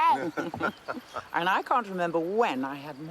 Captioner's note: all laughing